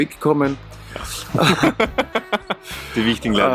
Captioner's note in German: lacht